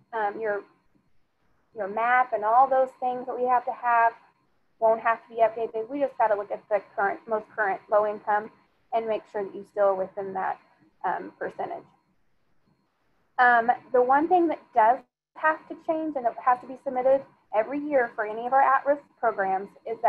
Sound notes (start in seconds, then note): none